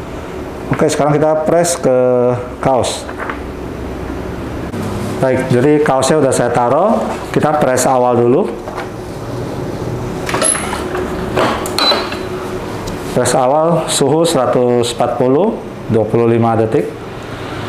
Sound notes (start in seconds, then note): 10.2 press machine sound; 11.7 beeping sound